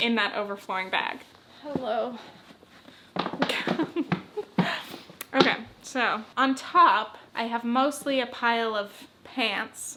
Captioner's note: giggles